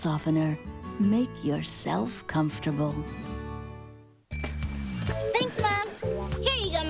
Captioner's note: none